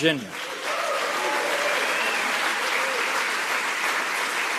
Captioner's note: crowd applause